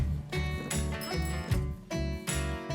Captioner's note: bell dinging